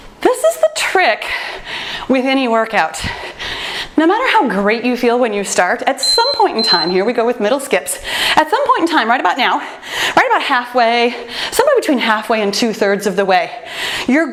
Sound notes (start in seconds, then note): 6.0 timer beeps